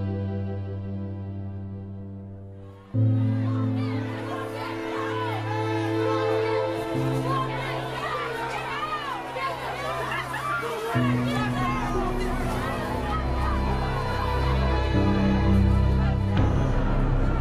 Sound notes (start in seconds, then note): 2.3 crowd Shouting; 8.9 shouting Continues